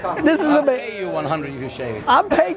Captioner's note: laughs